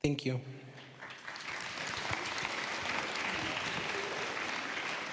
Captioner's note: applause